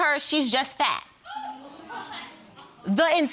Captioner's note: audience exclaims